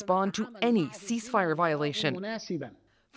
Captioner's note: speaking Alternate Language